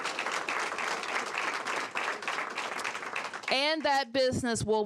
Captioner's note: applause